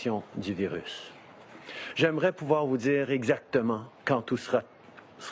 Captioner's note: speaking French